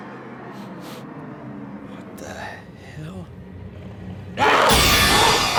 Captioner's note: sniffs; zombie growling